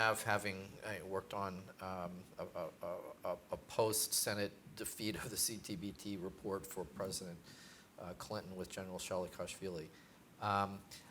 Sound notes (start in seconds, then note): none